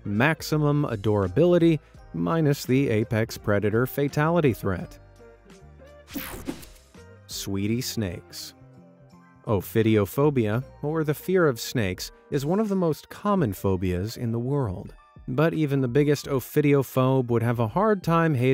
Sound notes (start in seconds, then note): 6.1 graphics whooshing